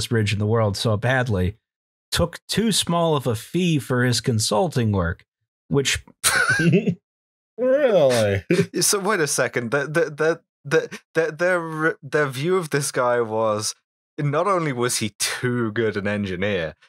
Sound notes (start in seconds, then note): 6.2 laughter